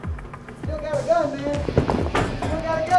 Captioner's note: voiceover